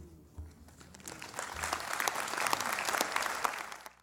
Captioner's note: applause